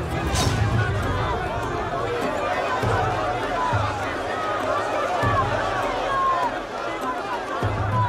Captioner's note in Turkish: Kalabalık bağrışma sesleri